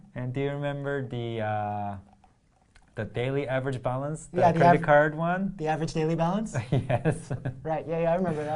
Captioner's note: laugh